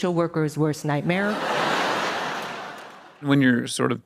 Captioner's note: audience laughing